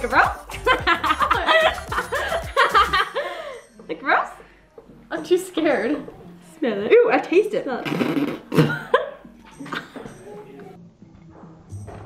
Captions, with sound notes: (laughs) Is it gross? - I'm too scared. Ew, I taste it. (spitting) - (laughs)